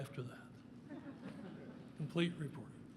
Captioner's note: laughter